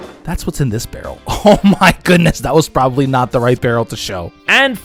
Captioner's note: laughs